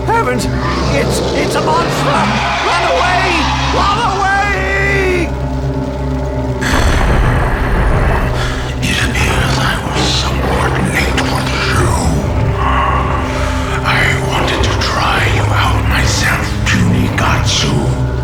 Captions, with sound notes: Heavens! It's... It's a monster! Run away! Run away! (Growls) It appears I was somewhat late for the show. I wanted to try you out myself, puny Gatsu.